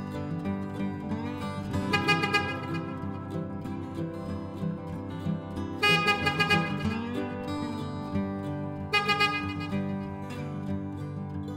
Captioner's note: nearer honking